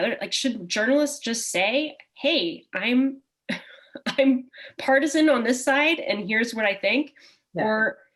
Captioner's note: chuckle